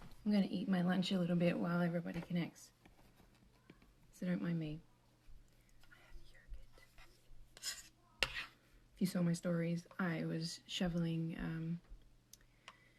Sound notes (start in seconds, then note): 5.9 whispers